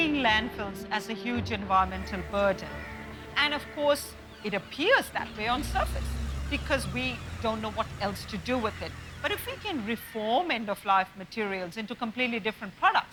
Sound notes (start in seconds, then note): none